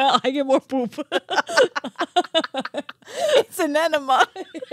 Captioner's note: laughing